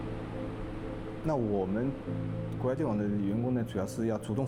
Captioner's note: speaking Chinese